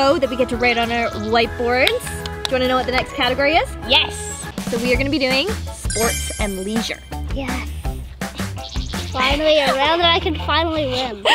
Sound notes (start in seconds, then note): 2.1 claps